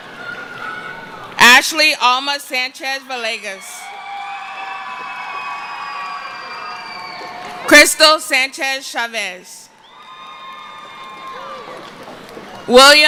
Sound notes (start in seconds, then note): 6.2 cheering